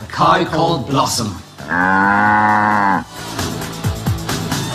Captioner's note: in Unison; cow moos